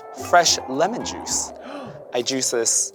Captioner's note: gasps